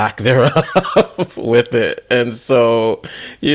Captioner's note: laughs